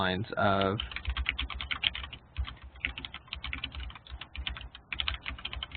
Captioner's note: keyboard clicking